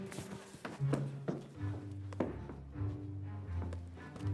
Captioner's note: none